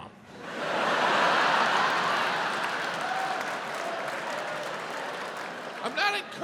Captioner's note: audience laughs